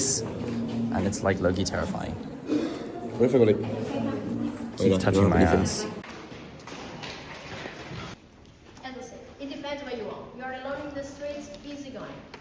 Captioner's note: snorts